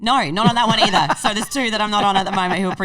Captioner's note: laughing